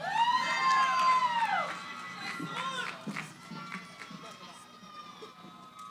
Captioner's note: cheering